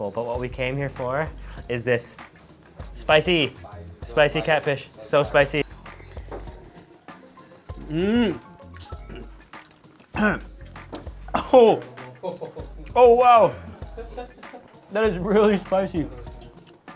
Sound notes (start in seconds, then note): 10.1 clears throat; 13.5 laughing